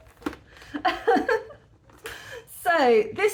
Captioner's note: laughing